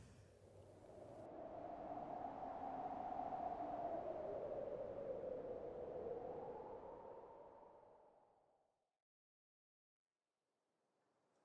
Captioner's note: A whistling gust of wind. A soft bird call. Faint fire crackling sounds